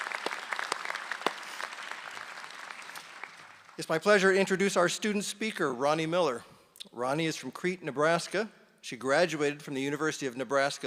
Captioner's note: applause